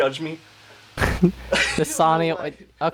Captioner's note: laughing